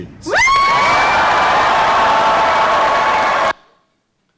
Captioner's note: cheering